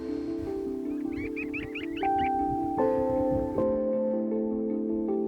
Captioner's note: birds chirping